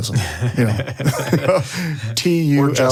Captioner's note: all laugh